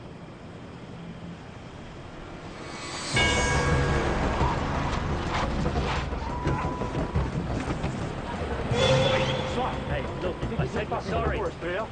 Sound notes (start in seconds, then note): 0.0 crickets stridulate; 1.9 suspense music; 3.2 car engine whirs